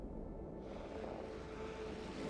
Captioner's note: none